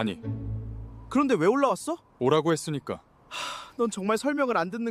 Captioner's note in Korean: 한숨